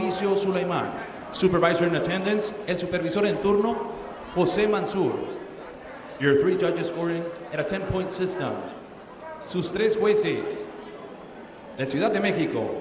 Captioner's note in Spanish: hablando en inglés